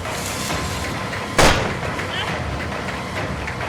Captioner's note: gunshots